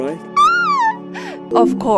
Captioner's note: sqeal